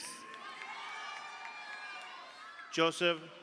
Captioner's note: audience applauds; audience cheers